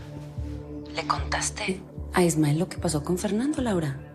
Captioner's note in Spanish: none